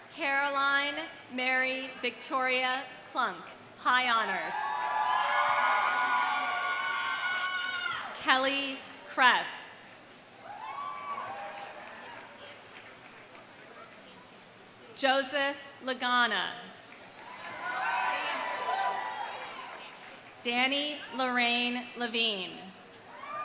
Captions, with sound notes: Caroline Mary-Victoria Klunk, high honors. (audience cheering) Kelly Kress. (audience cheering) (audience applauding) Joseph Lagana. (audience cheering) (audience applauding) Danny Lorraine LaVigne.